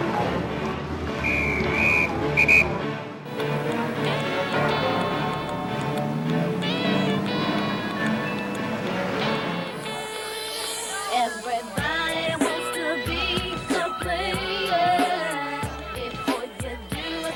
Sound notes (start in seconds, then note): 1.2 whistle blows